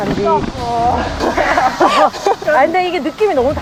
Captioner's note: laughter